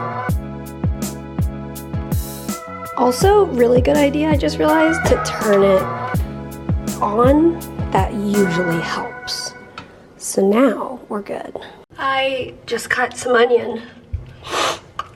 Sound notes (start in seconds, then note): 14.3 sniffles